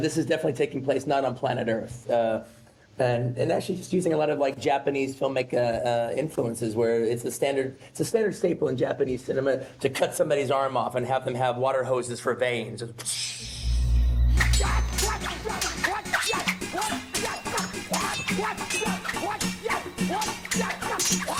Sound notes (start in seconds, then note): 14.4 weapons clattering; 14.5 Johnny Mo exclaiming